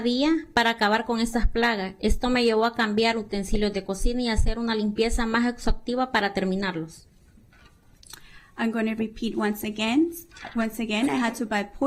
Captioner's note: speaking spanish